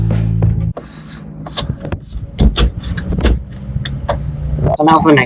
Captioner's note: narrowboat engine room sounds